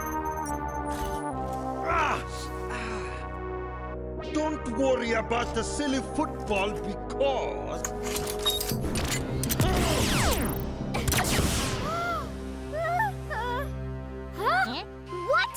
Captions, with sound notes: (grunts) - Ah. Don't worry about the silly football because... (grunts) (chuckling) (gasps) - Huh? - Heh? - What?